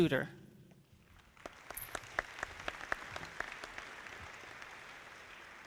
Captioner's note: audience clapping